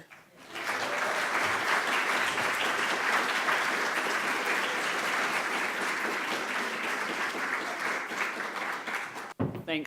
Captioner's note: applause